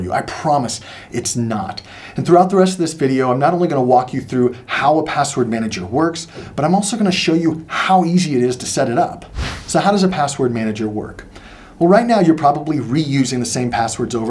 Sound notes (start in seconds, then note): 9.3 air whooshing